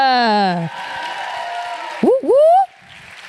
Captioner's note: applause